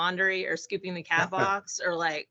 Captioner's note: laughing